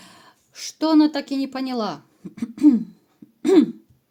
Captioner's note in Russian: откашливается